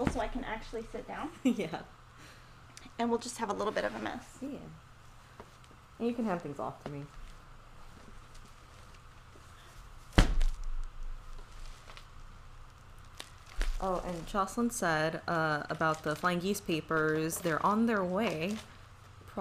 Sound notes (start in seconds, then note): 2.5 chuckles; 10.1 package thudding